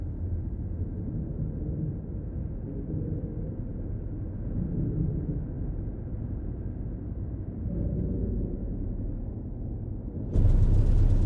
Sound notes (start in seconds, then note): 6.7 wind blowing